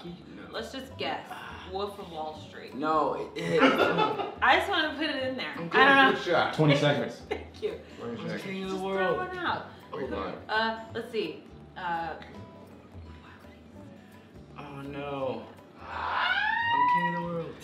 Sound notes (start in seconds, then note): 3.4 laughter; 13.0 whispers; 15.8 screeching yell